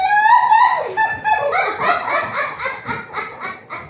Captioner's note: laughs; all laughing